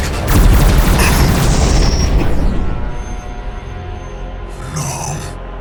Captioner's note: loud explosion